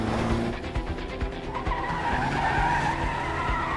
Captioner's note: tires screeching